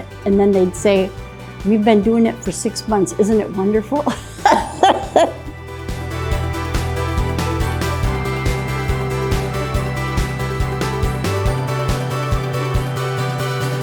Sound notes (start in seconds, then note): 4.1 laughs; 6.2 inspirational music